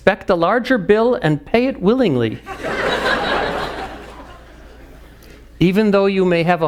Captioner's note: audience laughs